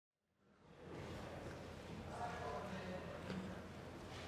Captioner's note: audience chatter